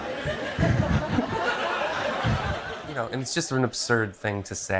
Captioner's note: crowd laughing